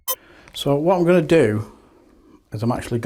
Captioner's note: speaking off camera